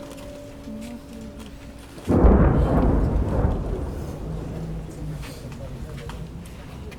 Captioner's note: sound of explosions